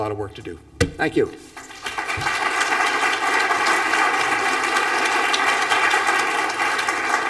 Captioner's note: applause